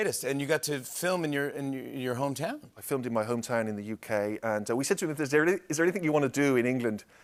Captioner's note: none